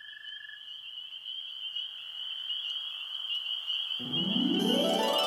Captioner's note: crickets chirping